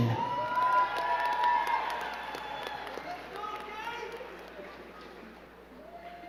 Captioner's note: crowd cheering and clapping